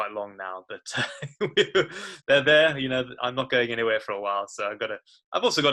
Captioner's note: laughs